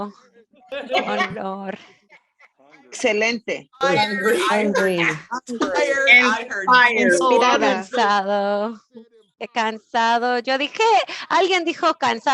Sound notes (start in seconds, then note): 1.2 Spanish